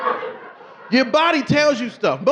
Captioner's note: audience laughing